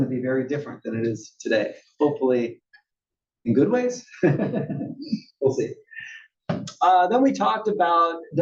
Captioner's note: laugh